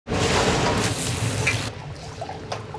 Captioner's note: broth sploshing; food sizzling; food fizzing